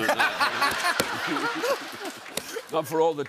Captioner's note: laughter and applause